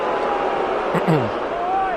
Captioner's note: booing